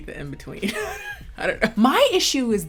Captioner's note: chuckling